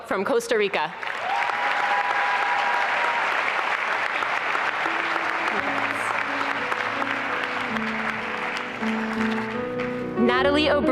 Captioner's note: applause and cheering